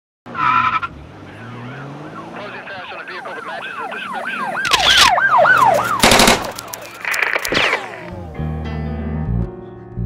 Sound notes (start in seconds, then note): 0.0 tyres screech; 0.3 police sirens; 5.8 gun shots